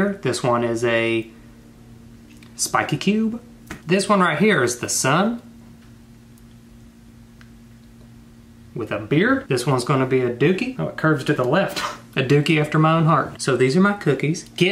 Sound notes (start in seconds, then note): 11.8 scoffs